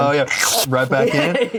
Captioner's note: slurp; laughs